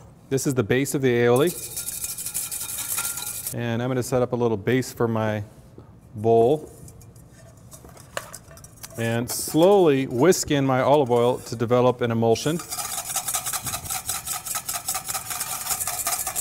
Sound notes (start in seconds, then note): 12.5 whisking sounds